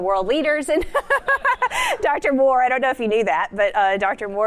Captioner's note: laughter